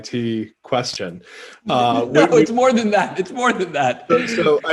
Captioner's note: laughs